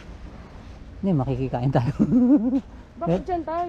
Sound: laugh

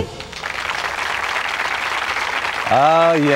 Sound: applause

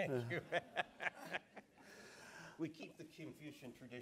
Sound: laughs

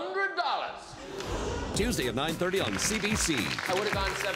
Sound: audience ohs and ahs

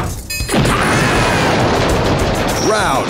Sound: explosion

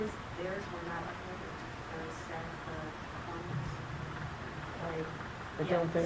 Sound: speaking faintly

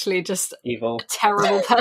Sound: laughs

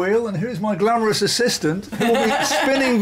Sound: laughter

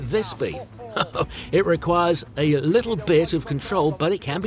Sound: laughs

